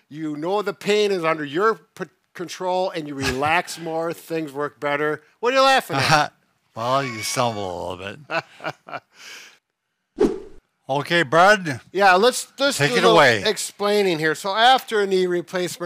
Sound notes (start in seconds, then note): 8.1 laughs